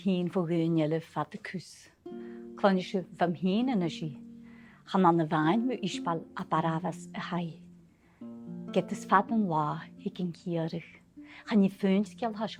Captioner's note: storytelling in Gaelic